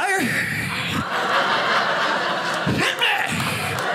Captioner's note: audience laughing